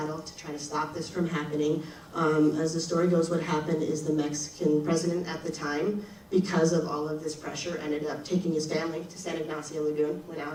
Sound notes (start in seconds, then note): none